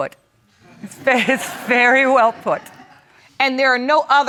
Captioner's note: audience laughs